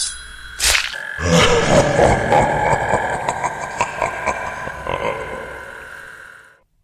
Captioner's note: evil laughter